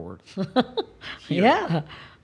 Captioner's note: laughs